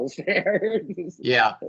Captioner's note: laughing